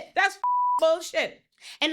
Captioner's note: beep